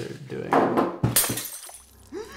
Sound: jar shatters

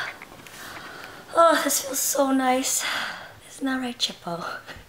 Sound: sighs

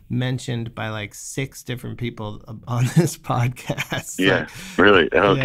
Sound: laughter

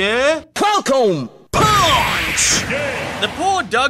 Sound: sfx:"falcon pawnch!”

